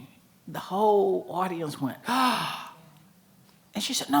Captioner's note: gasping